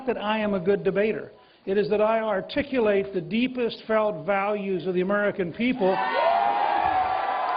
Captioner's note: cheers and applause